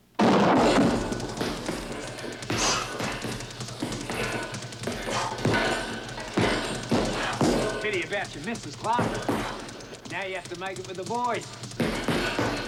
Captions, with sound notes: (clattering) (thudding) - Pity about your missus, Clarke. Now you have to make it with the boys.